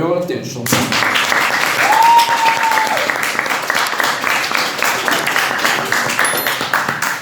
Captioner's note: applause